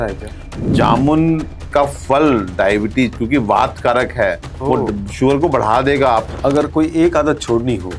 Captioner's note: wind